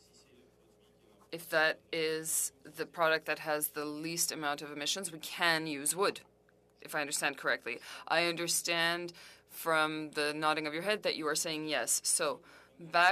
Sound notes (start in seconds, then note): 5.6 speaking french